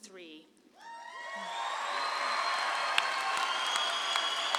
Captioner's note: audience cheers